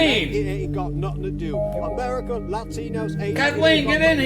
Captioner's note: both men discussing at the background